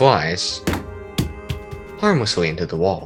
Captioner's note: the sound of an already broken controller being broken even more